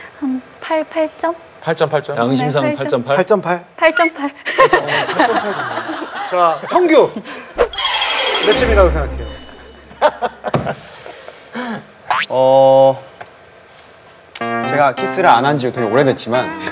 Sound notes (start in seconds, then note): 7.6 nervously